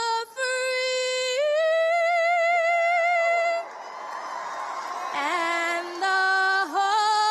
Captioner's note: cheers and applause